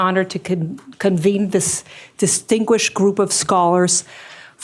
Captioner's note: none